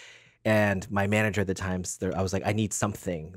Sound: none

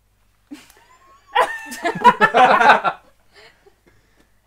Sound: laughing in disbelief

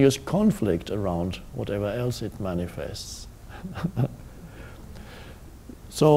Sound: chuckles

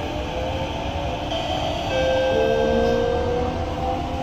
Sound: chime

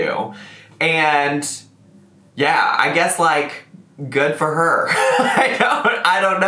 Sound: laughs

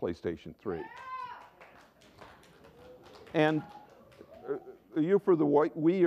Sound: applause and cheers from someone

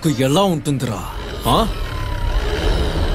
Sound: car Engine Sound

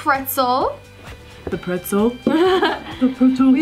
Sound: laughs

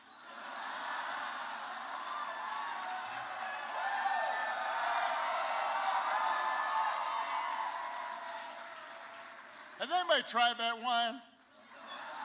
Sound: laughter, Applause

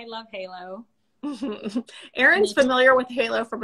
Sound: laughs

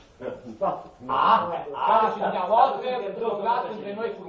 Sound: laughing

